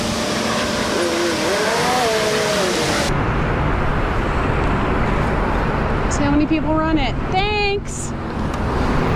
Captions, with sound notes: let's see how many people run it. [sarcastic] thanks!